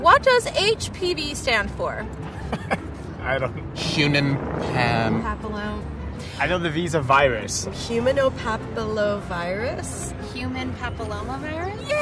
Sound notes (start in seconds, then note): 2.2 man laughs